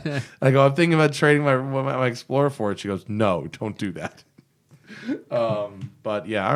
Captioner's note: laughs